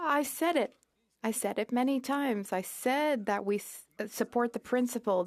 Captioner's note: speaking in French